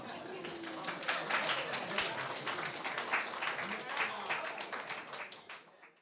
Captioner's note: applause